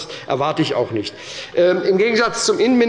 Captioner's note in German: Zurufe von der CDU